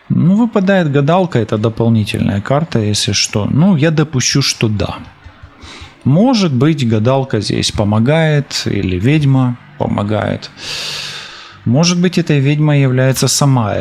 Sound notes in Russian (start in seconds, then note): 4.5 фыркает; 10.5 тяжело вздыхает